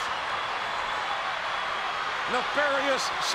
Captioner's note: crowd roars